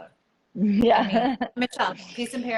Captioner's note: laughs